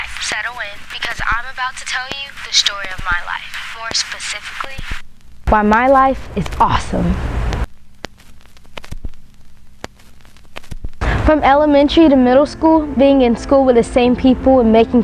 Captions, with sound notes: Settle in. Because I'm about to tell you the story of my life. More specially, why my life is awesome. *static* From elementary to middle school being in school with the same people and making